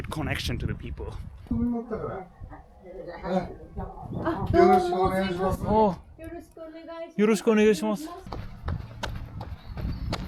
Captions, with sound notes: a good connection to the people. (man speaking in foreign language) (woman speaking in foreign language)